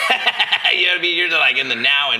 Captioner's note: laughing